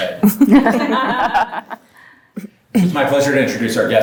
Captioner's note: group chuckles